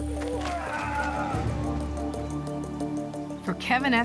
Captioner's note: exclaims